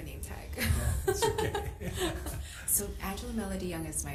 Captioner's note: laughs